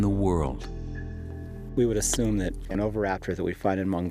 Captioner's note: none